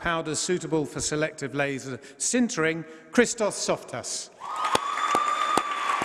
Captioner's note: applause